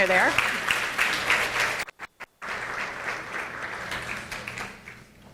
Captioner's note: audience applauding